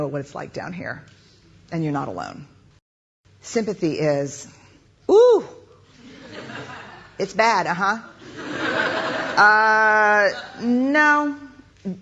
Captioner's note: laughter